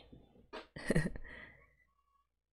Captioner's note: chuckles